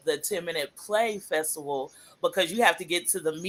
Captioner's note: none